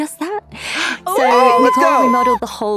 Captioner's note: cheers